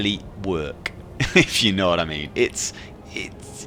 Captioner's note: chuckles